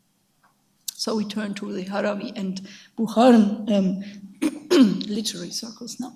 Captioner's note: speaks in a foreign language